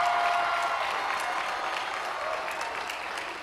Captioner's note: cheers and applause